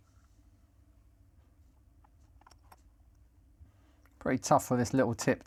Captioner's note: silence